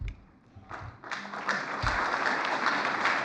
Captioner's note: applause